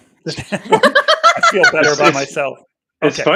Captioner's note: laughing